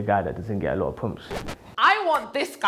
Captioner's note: vinyl scratch sound